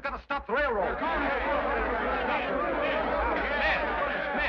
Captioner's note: men shout